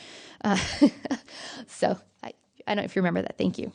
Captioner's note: laughs